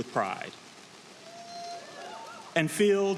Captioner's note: audience cheering